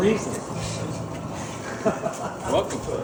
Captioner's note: speaker laughing